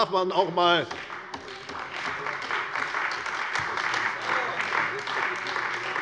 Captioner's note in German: Beifall bei der CDU und dem BÜNDNIS 90/DIE GRÜNEN